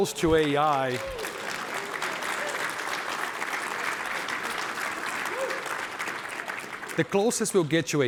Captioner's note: applause